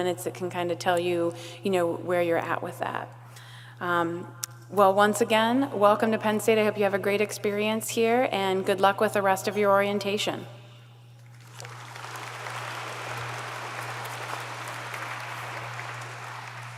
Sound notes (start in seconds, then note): 11.3 audience applauds